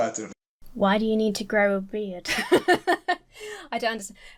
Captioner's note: laughs